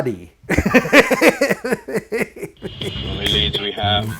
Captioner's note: laughing loudly